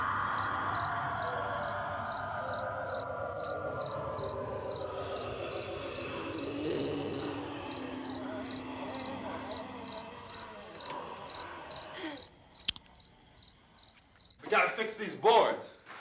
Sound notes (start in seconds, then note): 5.3 groaning